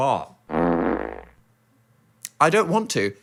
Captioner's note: fart noise